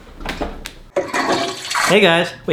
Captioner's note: toilet flushes